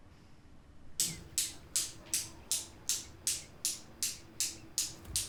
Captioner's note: metal balls clicking